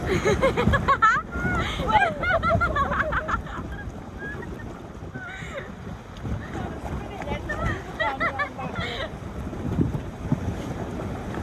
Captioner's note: laughter